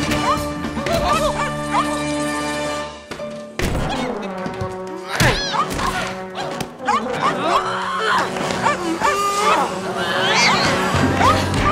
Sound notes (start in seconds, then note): 6.9 woman grunting; 8.5 dog barking